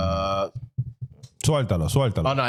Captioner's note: speaking In Foreign Language